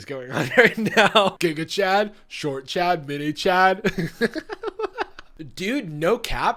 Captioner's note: laughing